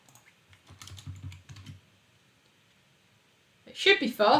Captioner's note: keyboard clicks